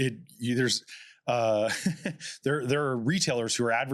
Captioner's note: chuckles